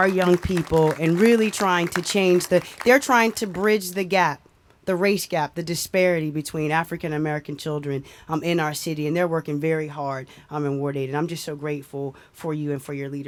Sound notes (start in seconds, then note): 2.6 applause